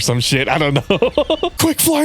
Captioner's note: laughs